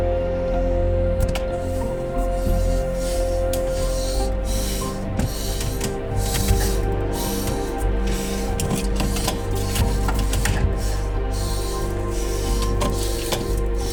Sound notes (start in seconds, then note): 4.1 Spencer panting